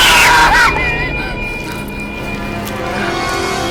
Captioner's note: both shout out in terror